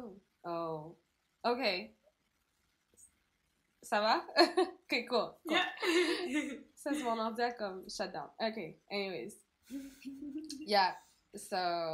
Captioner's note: laugh